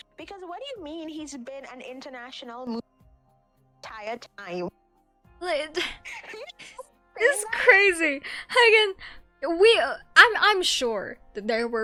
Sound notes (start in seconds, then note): 4.4 baffled noises